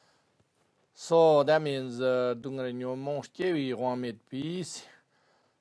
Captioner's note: tibetan